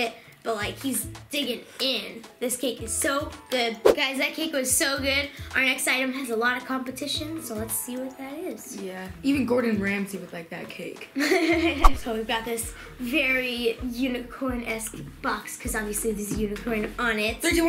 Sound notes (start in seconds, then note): 11.2 laughs